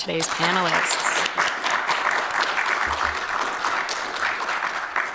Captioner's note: applause